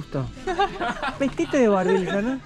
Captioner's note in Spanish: Risas